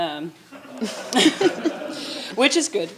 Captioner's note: attendees laughing